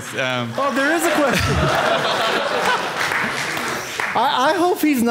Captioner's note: audience laughing